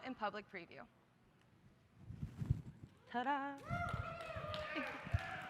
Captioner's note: applause